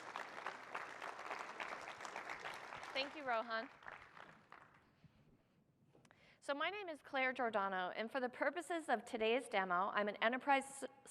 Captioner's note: applause